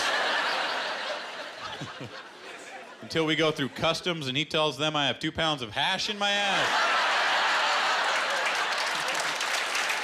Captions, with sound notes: (Laughter) Till we go through customs and he tells them I have two pounds of hash in my ass. (Laughter) (Applause)